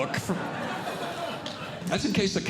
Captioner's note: audience Laughing